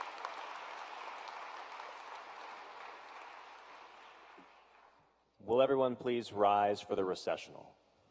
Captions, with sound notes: So go out there and fearlessly cover the world. We are counting on you. (Applause)